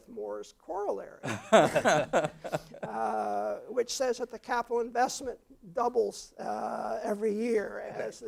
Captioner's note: laugh